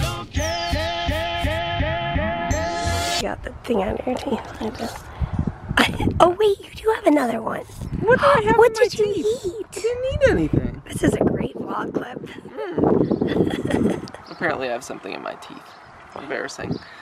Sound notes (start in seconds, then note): 12.4 chuckling